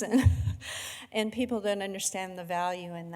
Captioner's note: laughing